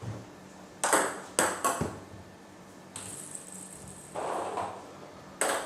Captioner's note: balls ping pong hitting continues